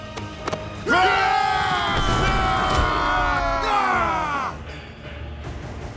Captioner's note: screaming